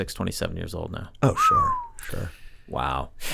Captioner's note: Charlie whistles